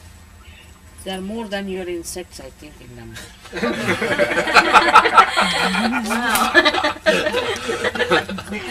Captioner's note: laughter